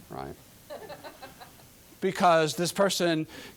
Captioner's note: audience laughing